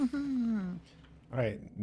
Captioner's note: chuckles